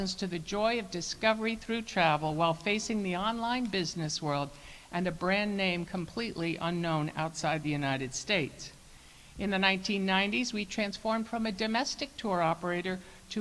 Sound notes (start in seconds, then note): none